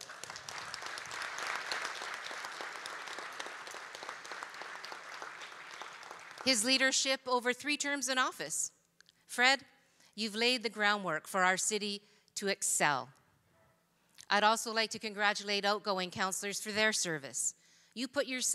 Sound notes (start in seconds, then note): 5.0 applause